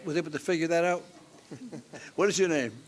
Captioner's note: chuckles